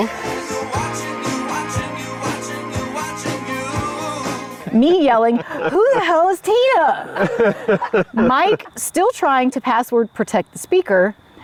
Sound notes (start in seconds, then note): 7.0 group laughs